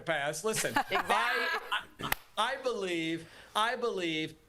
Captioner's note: laughter